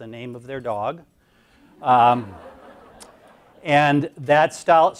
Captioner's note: audience laughs